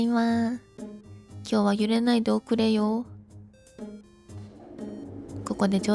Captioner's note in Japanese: 懇願